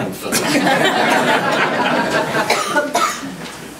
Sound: group laughs

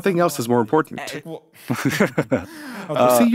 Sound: chuckles

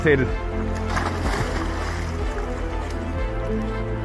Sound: water splashing; inspiring music

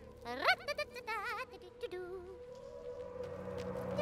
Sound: Izzy hums

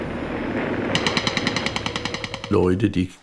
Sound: Schüsse

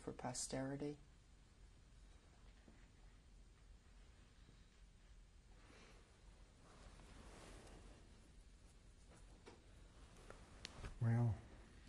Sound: pauses for 6 seconds

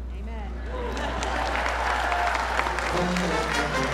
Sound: applause

